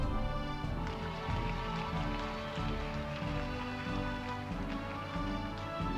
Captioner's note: audience applauding